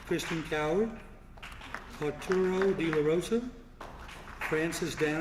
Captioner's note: applause